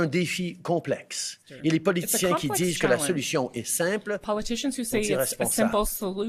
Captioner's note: speaking French